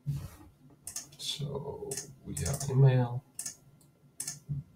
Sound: mouse clicking

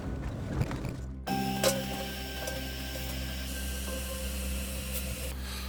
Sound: gas burner sounds

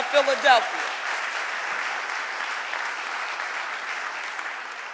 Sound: audience applauding

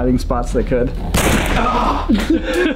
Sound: gun shot

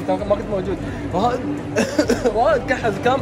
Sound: fake coughes

